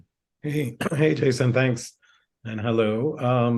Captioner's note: clears throat